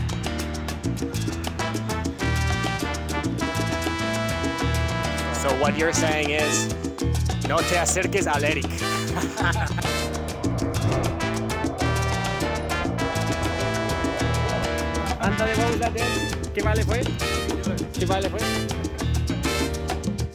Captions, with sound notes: So what you're saying is (in Sanish) don't get CLOSE to that ERIC! *laughter* Come on now, what was that dance, again?